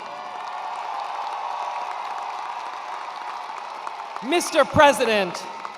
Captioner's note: attendees cheering and applauding